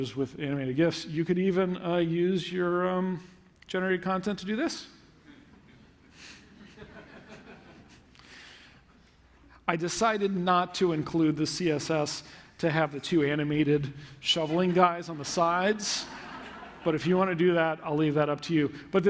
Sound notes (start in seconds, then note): 5.2 laughter